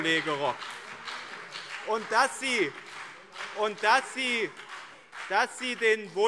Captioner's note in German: Beifall BÜNDNIS 90/DIE GRÜNEN und CDU